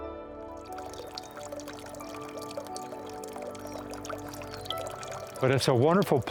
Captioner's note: trickling water